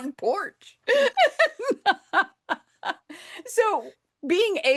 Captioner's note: laughs